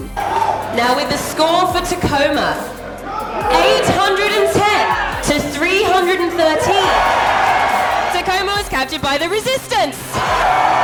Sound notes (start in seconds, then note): 6.9 crowd cheers